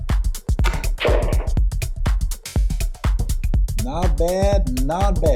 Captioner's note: balls clacking